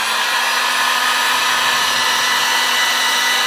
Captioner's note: heat gun makes loud hair dryer-type noise